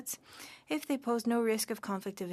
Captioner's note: speaking French